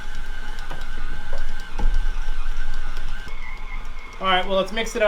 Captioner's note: mixer whirring